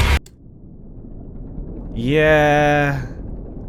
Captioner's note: sub trundles gently along